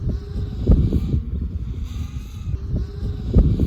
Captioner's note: A drone flying around me